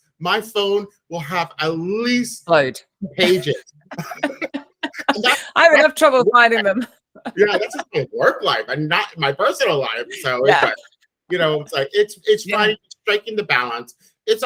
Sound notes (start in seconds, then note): 3.1 laughs; 7.2 laughs